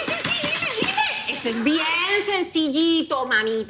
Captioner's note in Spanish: Exclamación